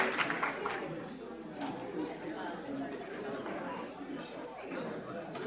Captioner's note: audience chattering